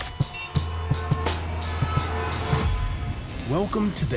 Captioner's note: horns honking